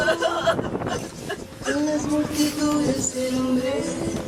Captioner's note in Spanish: Llanto, sollozo